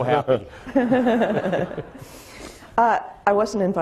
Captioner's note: laughing